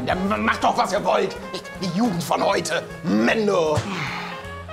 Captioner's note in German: Seufzen